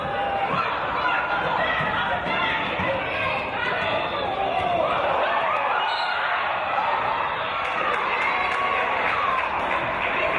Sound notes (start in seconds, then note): 5.8 referee's whistle